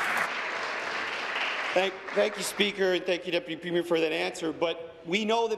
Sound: applause

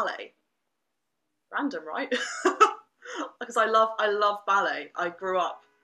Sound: laughter

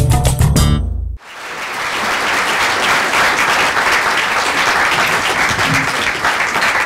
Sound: bright percussion music; applause

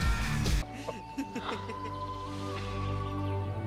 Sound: laughter

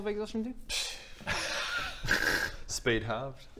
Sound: laughs

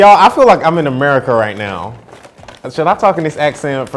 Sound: imitates American accent

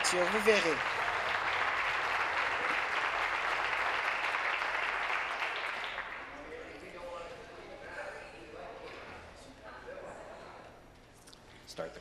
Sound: applause

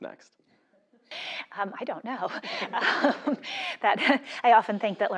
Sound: laugh

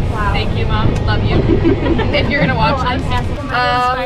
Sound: laughing

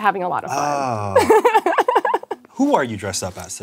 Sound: giggles

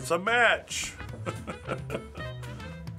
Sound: laughing

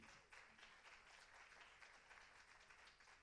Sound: applause

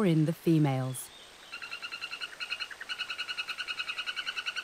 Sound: frog croaking

